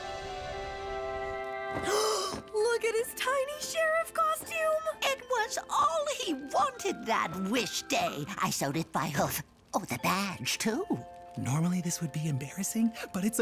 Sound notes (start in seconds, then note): 0.2 soft music; 1.8 gasps